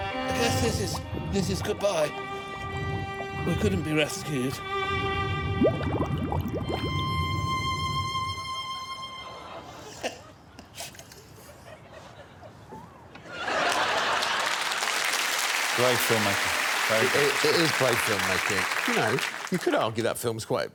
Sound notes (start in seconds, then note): 8.3 violin music; 11.8 Alan laughs; 15.2 laughter